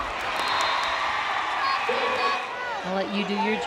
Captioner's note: crowd cheering